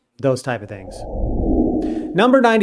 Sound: frame whooshing

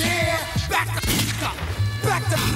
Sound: shot fires

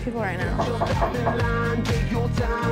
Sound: knocking on door

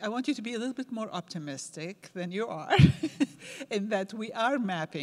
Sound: laughs

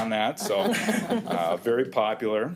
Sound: all chuckle

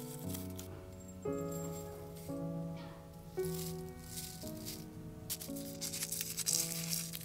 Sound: flowers rustling; tea leaves fall into bowl; rose petals crack and rustle

